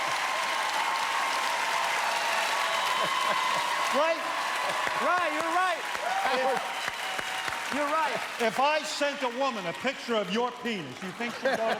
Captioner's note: cheers and applause